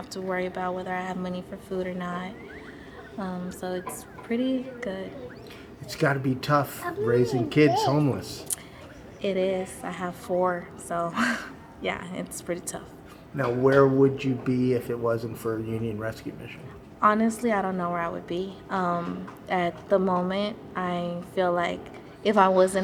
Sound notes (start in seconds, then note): 11.0 woman laughing